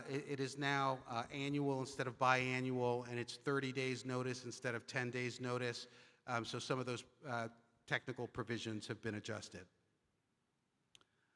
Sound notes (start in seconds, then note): none